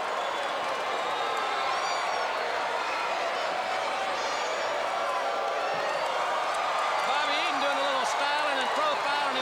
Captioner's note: crowd chatter